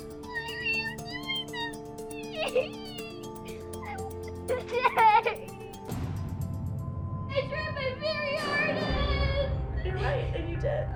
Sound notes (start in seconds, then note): 3.7 sobs